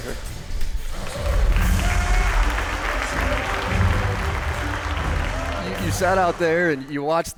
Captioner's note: applause